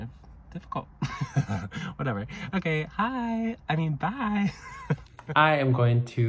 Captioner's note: laughs